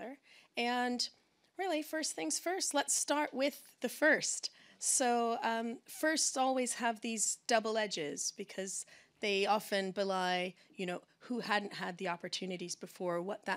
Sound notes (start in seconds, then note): none